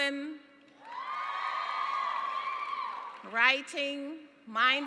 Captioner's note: cheering